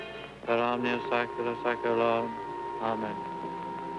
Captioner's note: priest speaking foreign language